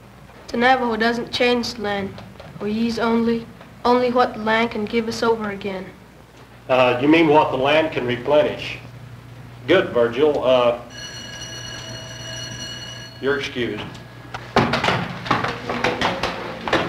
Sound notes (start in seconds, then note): 10.8 school bell